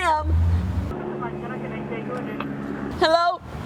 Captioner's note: traffic noise